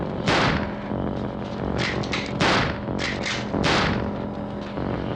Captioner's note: rifle cocks, gunshots